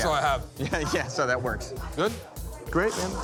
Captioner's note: laughing